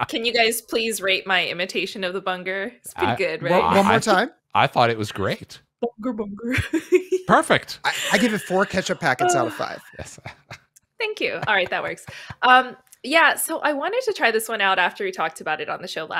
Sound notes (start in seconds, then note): 7.3 laughs; 10.2 chuckles